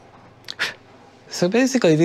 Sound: blows

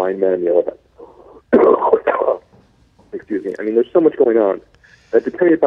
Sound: coughing

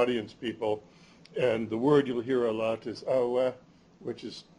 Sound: non-english

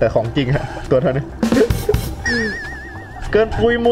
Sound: laughing

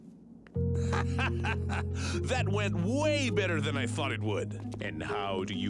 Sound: laughing

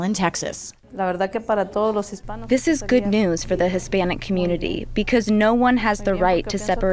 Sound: through translator

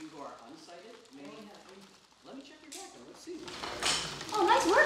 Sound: rummaging

